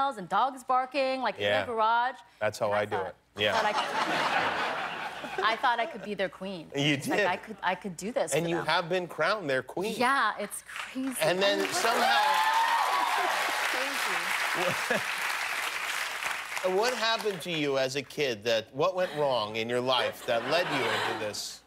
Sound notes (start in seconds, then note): 6.3 laughter; 11.3 cheers and applause